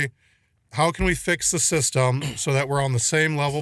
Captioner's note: clears throat